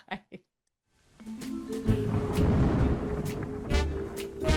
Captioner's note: pensive music; thunder crashing; jaunty inquisitive music